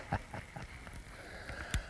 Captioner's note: laughter